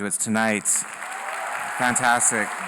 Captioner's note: applause